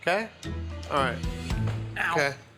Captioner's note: foot thumping